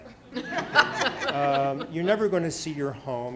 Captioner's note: students laughing